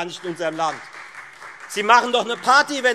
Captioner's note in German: Beifall Freie Demokraten